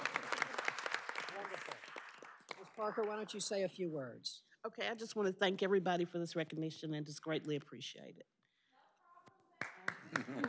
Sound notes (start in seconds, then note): 3.8 applause